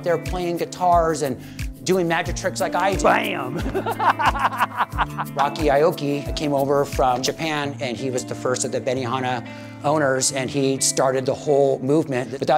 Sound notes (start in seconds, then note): 3.6 laughs